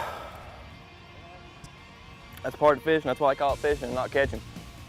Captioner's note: sighing